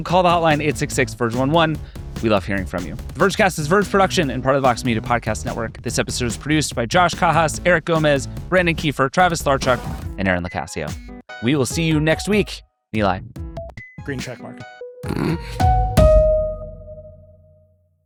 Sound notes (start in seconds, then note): 15.0 laughing; 16.1 upbeat piano music